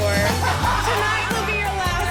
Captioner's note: laughter